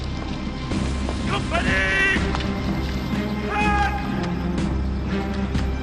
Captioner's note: commander shouts orders in French